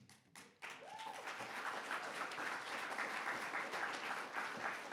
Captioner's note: audience applauds